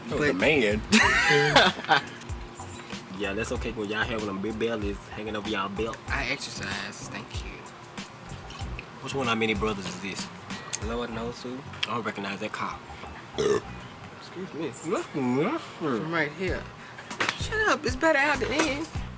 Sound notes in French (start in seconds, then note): 0.9 Rires; 13.3 rot bruyant